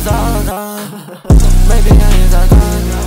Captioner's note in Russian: ха-ха-ха-ха